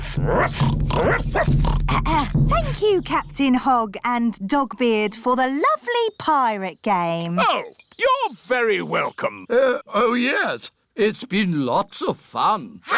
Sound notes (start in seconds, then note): 0.0 oinks; 1.0 barks; 2.1 clears throat